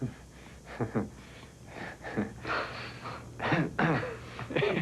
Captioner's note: nervous laughter